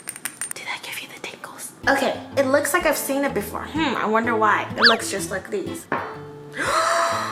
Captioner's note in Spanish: sarcasmo